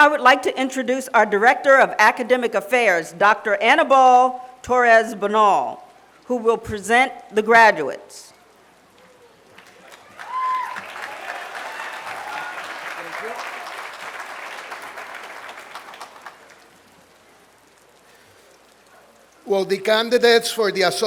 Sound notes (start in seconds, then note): 9.4 applause